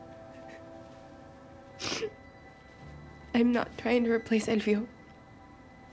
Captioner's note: sniffles